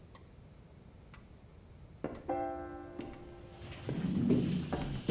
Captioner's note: clock ticking